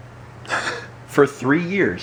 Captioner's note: laughs